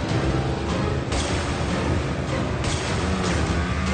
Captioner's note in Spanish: Disparos